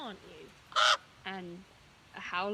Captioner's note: cawing